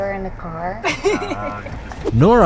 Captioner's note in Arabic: تضحك